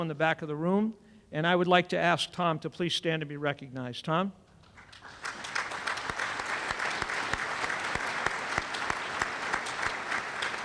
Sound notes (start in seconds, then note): 7.1 applause